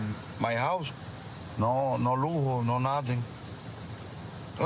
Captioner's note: speaking spanish